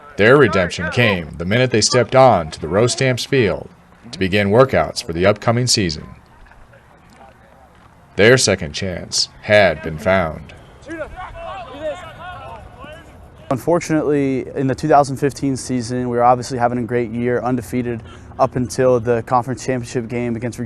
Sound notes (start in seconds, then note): 10.5 players yelling